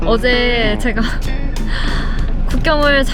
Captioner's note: sigh